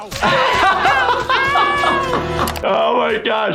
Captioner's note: laughing